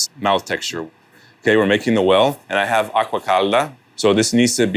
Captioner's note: speaks Italian